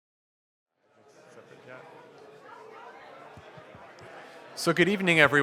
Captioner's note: audience chattering